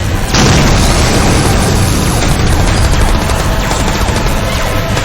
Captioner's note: explosion booming